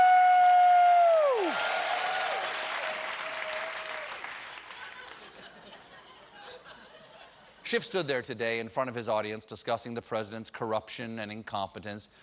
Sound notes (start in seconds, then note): 0.3 applause